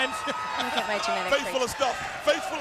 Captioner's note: Tony laughs